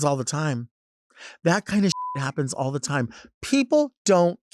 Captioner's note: beep